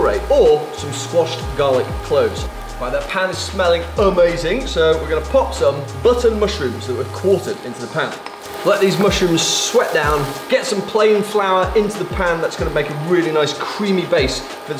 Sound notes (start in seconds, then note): 8.2 pan simmers